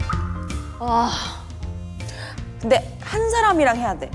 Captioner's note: sighs